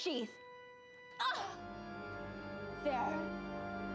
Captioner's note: groaning